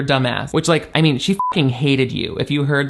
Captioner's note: beep